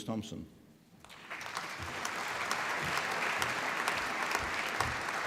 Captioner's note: applause